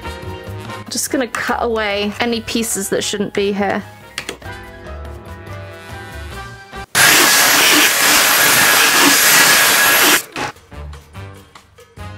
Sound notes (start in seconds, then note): 6.9 vacuum noises